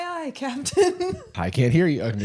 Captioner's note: giggles